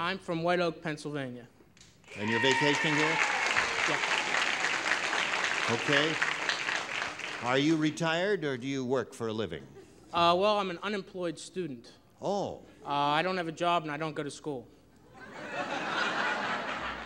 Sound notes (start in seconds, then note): 4.6 applause